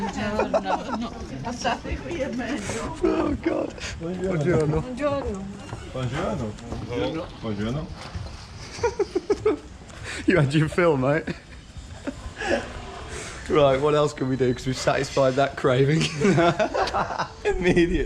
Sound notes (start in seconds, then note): 0.2 laughing; 4.3 speaking in a foreign language; 8.6 laughing; 11.8 both laughing; 16.0 both laughing